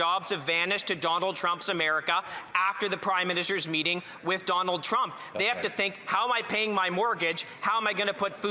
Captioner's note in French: voix de l'interprète